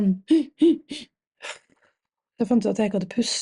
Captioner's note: coughing sound